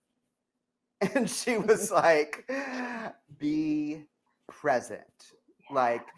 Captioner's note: laughs